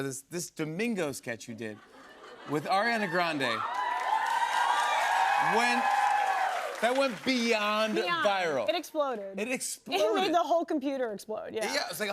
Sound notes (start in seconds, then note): 2.8 cheers and applause